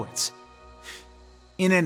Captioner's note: sigh